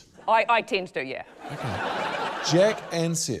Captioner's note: laughter